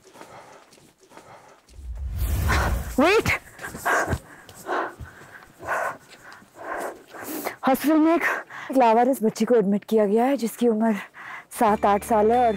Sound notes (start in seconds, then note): 1.1 exhales; 3.3 panting